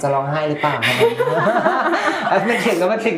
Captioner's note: laughs